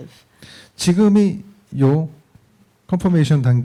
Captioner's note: speaking korean